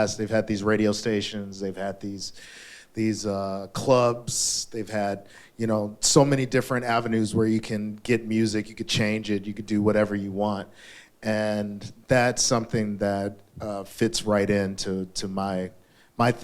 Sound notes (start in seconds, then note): none